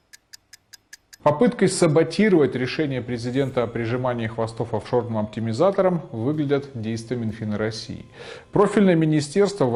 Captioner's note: Russian